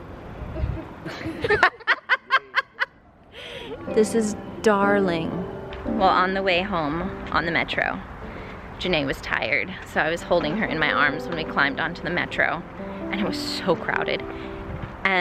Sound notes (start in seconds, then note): 0.6 family laughs